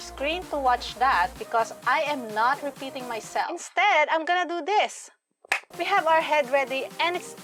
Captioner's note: claps